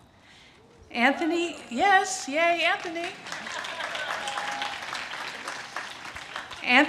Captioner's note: audience cheers and claps